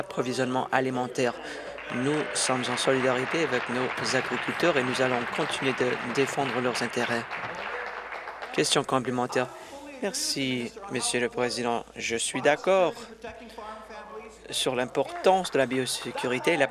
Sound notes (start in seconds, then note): 7.5 applause